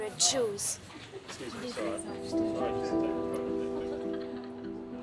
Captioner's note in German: undeutliches Gerede